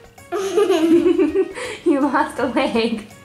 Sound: giggling

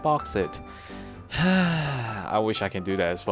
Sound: sigh

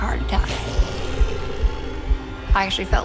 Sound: heartbeat

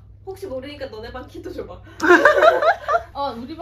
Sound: laughing

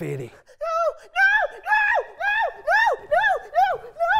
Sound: screams

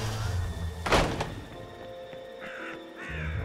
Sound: door slams; crow caws

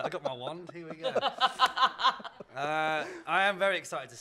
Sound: laughter

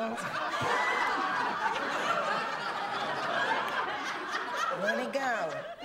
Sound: laughter

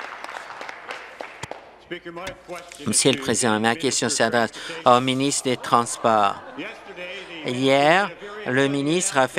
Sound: applause

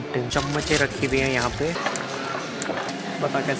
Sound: squash; squish

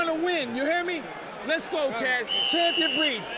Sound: whistle blows

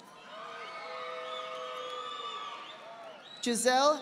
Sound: audience applauding

